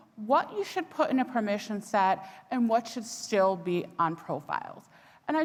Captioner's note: none